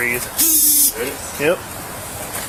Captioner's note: Officer's phone buzzes